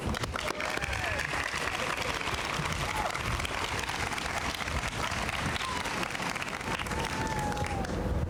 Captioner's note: applause